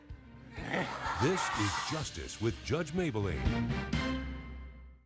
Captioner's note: audience laughing